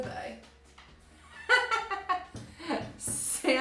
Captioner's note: laughing